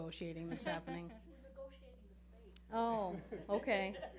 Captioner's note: laughing